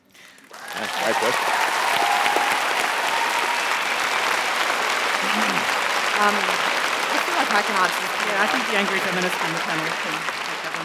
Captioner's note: applause